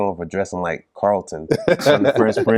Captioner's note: laughter